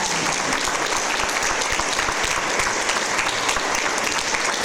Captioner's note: audience applause